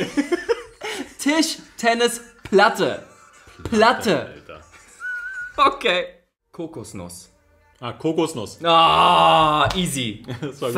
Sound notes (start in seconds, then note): 4.6 laughs; 8.7 moans